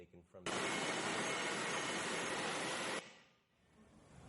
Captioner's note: machinery working